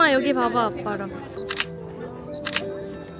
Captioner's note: click, click